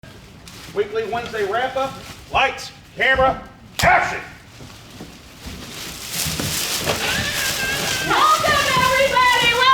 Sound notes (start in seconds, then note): 5.9 rustling